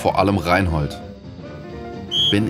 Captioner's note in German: Pfiff